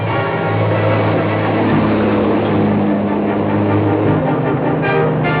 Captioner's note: truck accelerates